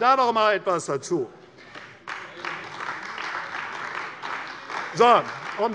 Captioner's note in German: Beifall bei der CDU